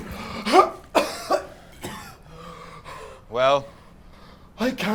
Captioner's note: Jimmy coughing